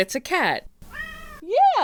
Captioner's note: meow!